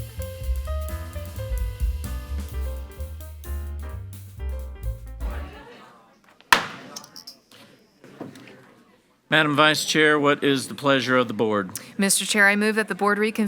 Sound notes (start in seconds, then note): 6.5 gavel bangs